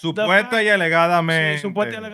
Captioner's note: speaking Spanish